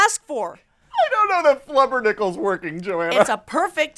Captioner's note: laughs